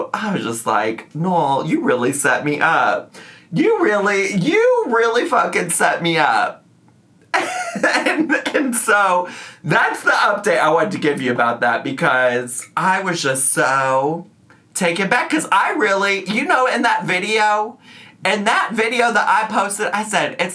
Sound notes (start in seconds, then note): 7.3 laughs